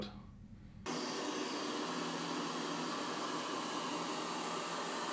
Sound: machine vacuuming

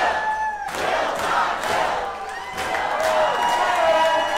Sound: people cheering

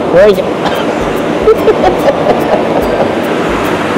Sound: laughs

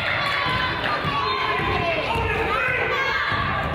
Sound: crowd applauds

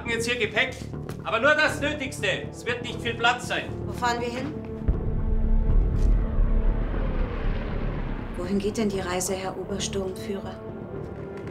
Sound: speaks in foreign language

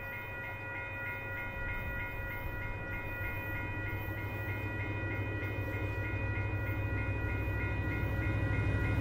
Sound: distant rumbling of the engine, growing louder; engine noise intensifies, mostly drowning out the e-bell

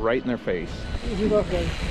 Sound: reel cranking

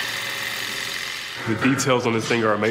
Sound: loud grinding

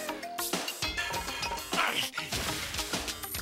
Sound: grunts

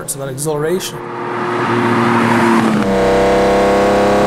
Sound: engine revs

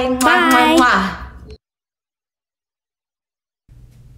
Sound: blowing kisses

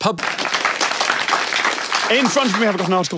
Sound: applause

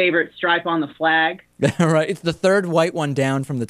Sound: laughs

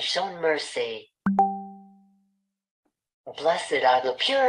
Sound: chat notification sound

